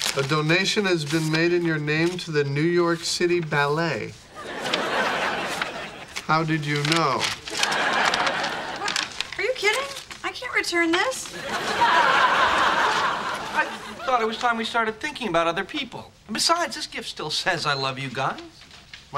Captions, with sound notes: - A donation has been made in your name to the New York city ballet. (audience laughing) How did you know? - Are you kidding? I can't return this. (audience laughing) - I thought it was time we started thinking about other people. And besides, this gift still says I love you guys.